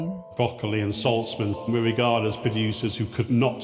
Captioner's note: echoing